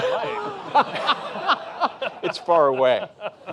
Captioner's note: laughter